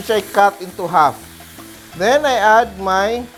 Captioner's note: sizzle